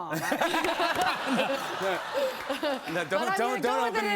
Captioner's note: laughter